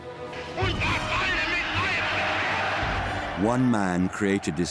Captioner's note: Hitler speaking in foreign language